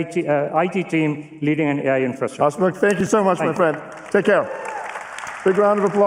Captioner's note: applause